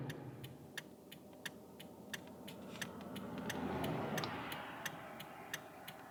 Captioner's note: blinker noise